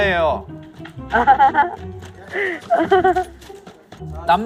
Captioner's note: hahahaha